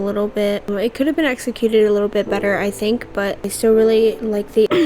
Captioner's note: clears throat